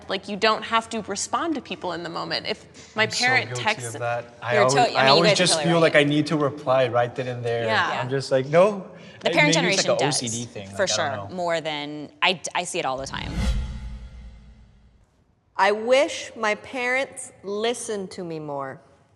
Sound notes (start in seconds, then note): 12.9 screen whooshing